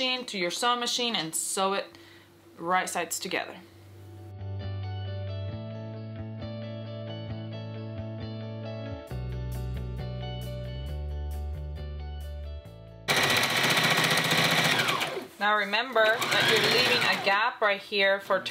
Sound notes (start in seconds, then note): 4.6 gentle music; 13.2 machine whirring